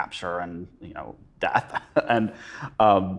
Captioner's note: chuckles